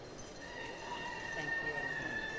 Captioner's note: indistinct chatter, Cheering